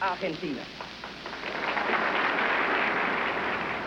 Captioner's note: applause